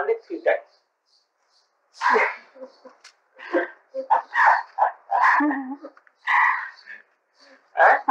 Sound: laughter

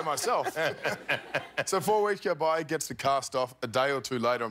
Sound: laughter

